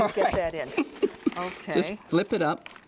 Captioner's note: laughter